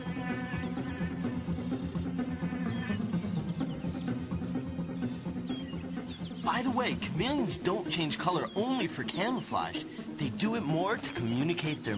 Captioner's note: fly buzzing